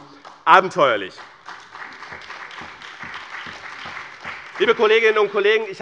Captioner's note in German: Beifall bei BÜNDNIS 90/DIE GRÜNEN und bei Abgeordneten der CDU